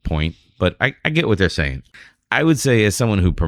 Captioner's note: uh